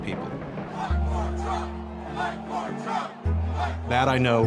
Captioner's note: crowd chanting